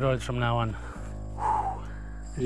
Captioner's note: exhale